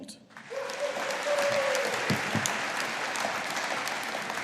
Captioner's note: audience applauding